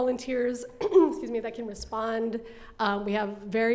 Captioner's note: coughs